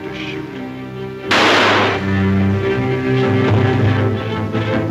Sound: gun bangs; dramatic music

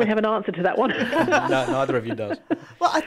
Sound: laughs

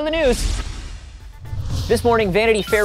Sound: laser whoosh

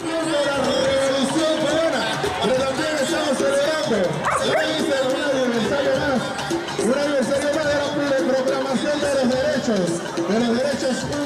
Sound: loudspeaker voice

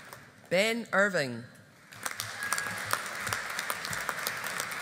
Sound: audience applauding

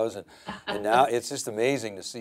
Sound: laughing

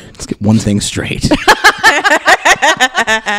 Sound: laughter

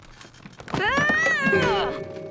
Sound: screaming

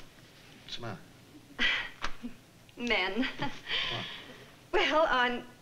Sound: sighs

